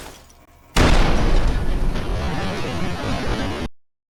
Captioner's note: boom!